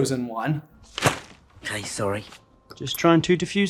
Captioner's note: thwap